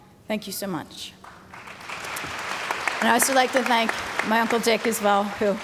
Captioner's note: background Applause